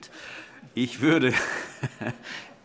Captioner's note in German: Heiterkeit SPD